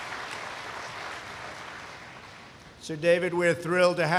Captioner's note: applause